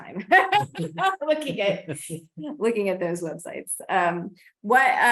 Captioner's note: laughs